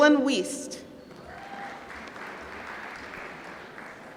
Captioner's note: applause